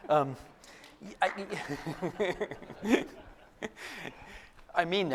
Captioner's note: applause and laughter